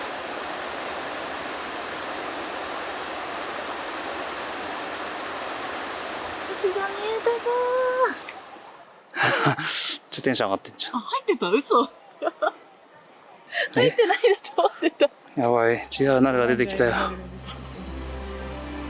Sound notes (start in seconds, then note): 9.2 laughs; 17.1 laughs